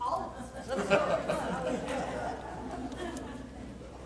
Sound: laughter

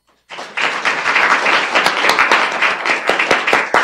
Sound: applause

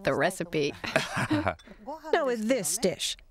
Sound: laughter

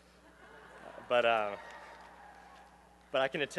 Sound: laughter and cheering

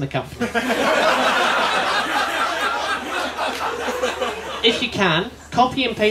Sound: laughter

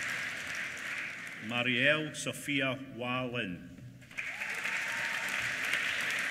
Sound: applause

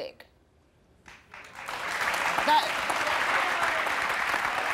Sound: audience applauding

